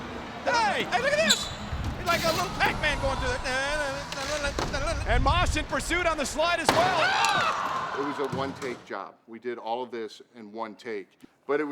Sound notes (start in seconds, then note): 4.0 commentator vocalizes melodically; 6.6 impact thuds